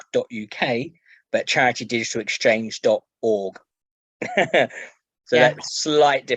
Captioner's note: laughs